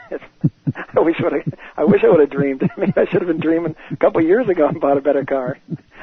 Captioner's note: laughter